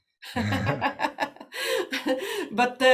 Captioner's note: laughing